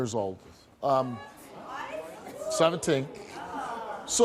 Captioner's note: audience gasping in surprise